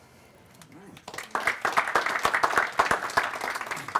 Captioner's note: applause